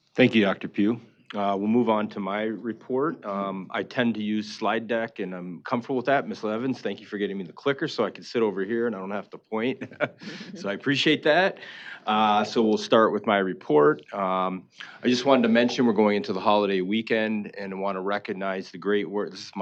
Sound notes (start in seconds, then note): 9.7 laughing